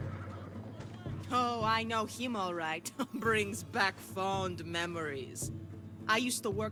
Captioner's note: laugh